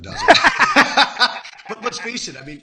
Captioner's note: laughing